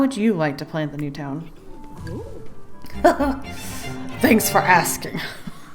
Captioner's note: excited noise